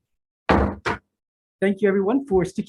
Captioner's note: gavel bangs twice